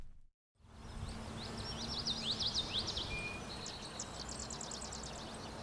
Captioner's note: birds chirping